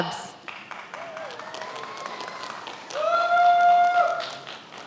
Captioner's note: many applauding